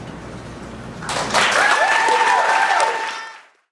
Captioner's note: audience cheering